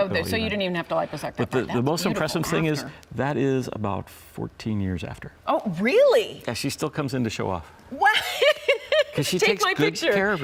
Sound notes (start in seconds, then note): 8.0 laughs